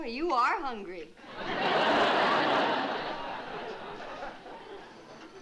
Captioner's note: laughter